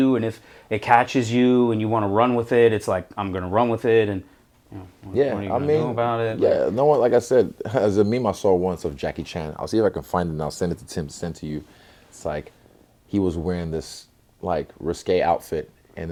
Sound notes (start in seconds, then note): 7.2 chuckle